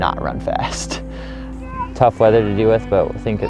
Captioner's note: laughs